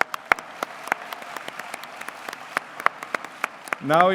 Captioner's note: applause